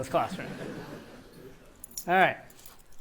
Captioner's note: laughter